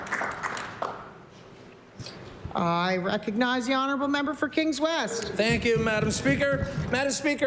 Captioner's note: applause